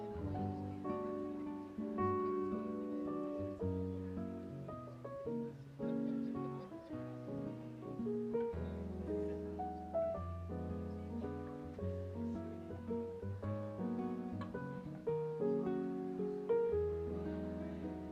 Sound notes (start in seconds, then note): 0.8 guests murmuring; 0.8 light piano music continues